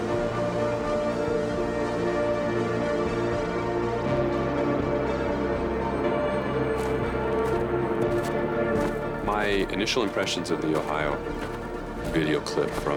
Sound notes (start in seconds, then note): 2.2 mysterious music continues; 6.6 undergrowth crunching